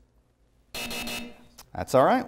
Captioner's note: buzzer